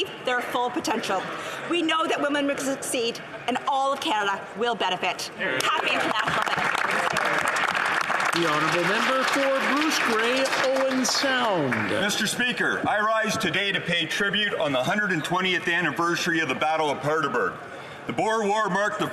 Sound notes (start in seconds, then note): 10.2 some Applause